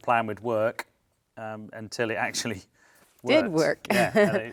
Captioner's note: chuckles